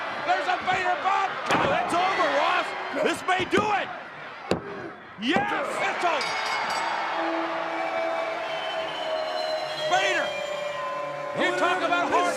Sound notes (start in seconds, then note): 6.1 bell rings; 7.6 upbeat music